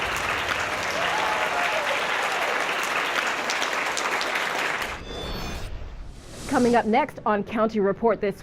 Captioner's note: cheers and applause